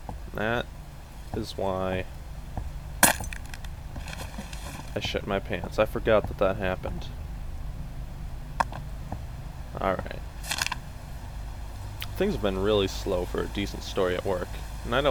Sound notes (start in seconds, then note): 3.0 lightbulb Shatters